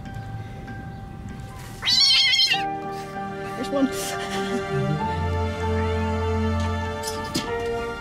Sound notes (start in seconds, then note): 1.8 yowls; 4.2 laughter